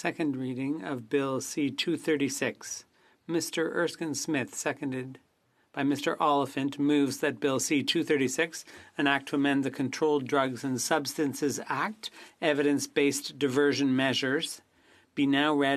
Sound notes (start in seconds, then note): 9.9 speaking French